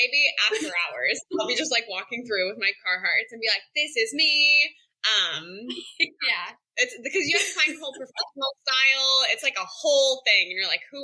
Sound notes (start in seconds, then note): 7.2 laughter